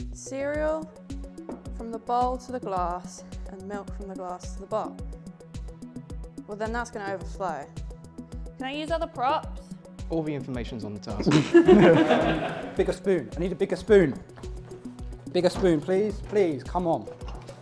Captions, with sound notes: "..cereal from the bowl to the glass," "and milk from the glass to the bowl." Well, then that's going to overflow. Can I use other props? All the information is on the task. (laughter) Bigger spoon, I need a bigger spoon! Bigger spoon, please... Please, come on.